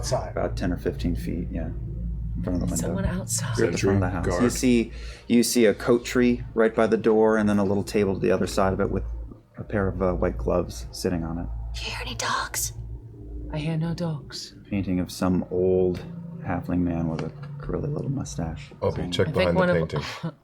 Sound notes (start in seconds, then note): 11.5 whispering